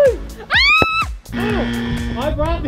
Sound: buzzer

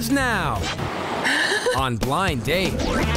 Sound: nervous laughing

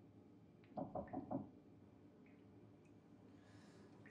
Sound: knocking on door

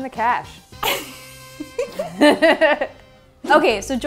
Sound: both laugh

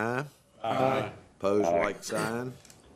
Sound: chorus of ayes

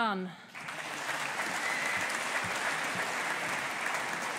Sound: audience applauding

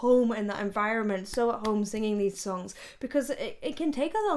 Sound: soft clapping

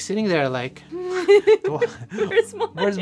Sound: laughter

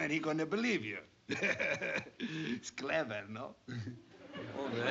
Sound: laughs

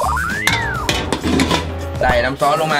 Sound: metal clanking

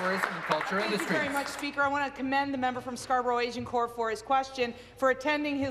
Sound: applause

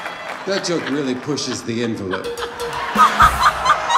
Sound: audience laughing

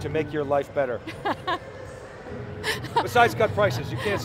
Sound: laughs

